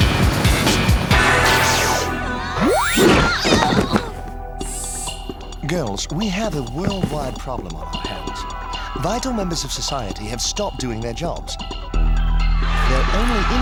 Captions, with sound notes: [funky music] [shrieking] Girls, we have a worldwide problem on our hands. Vital members of society have stopped doing their jobs.